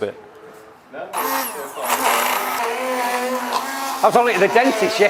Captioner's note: blender whirs